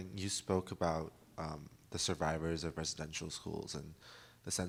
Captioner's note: none